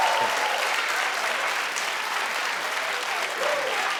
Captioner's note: audience cheering